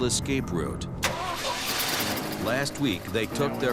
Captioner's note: engine turns over